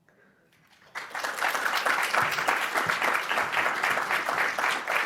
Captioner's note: audience applauding